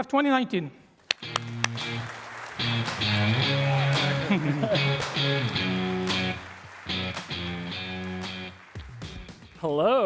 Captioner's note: applause